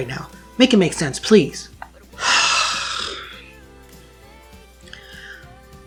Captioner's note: long suffering sigh